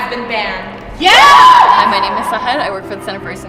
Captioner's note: cheers